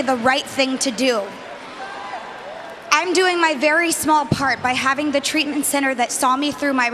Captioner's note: cheering and applause